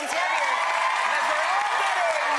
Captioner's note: audience cheers